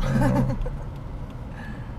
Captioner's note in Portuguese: risos